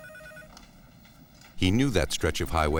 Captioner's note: phone ringing